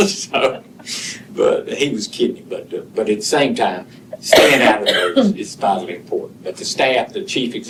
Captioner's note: cough